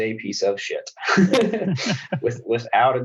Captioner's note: laughs